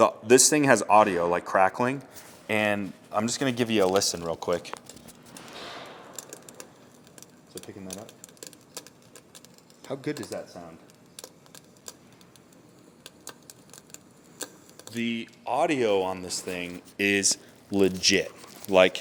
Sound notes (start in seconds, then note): 5.1 fire crackling; 12.3 fire crackling